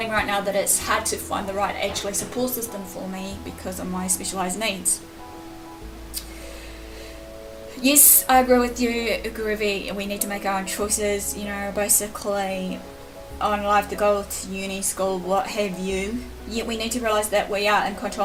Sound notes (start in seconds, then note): 6.1 clicking of the tongue